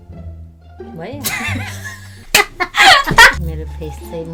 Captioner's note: laughing